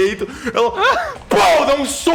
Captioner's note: pow